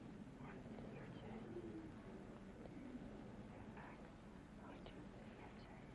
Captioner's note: whispering